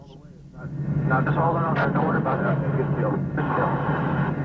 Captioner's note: radio chatter